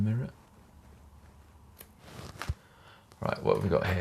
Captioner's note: scissors snipping